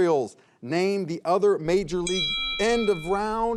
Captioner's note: bell rings